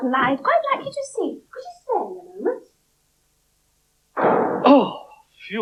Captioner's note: door Slams